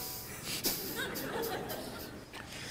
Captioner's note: laughter